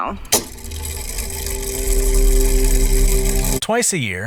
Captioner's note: mechanical whirring